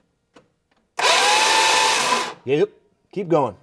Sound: revving

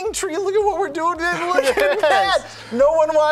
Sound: both laughing

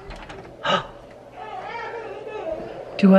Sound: gasps; child cries

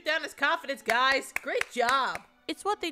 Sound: clapping

